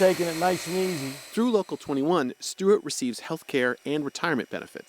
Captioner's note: voice-over